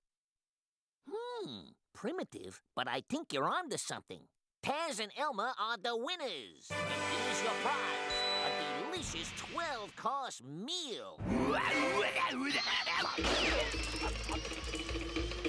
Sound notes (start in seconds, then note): 11.9 exclaiming